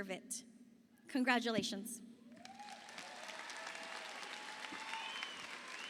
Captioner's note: audience applauding